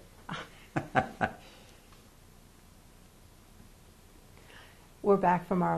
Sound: laughs

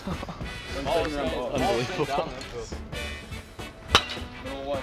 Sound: chuckling

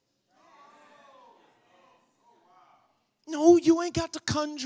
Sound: congregation murmurs

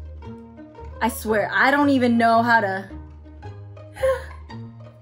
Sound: soft instrumental music; upbeat instrumental music; sighing

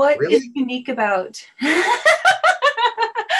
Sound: laughing

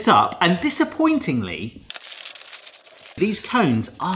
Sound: packaging rustles

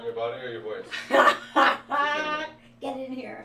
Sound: laughter

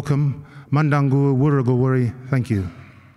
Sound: non-english speech

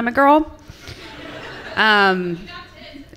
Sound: laughter from the audience

